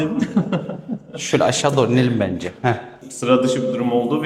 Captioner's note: laughs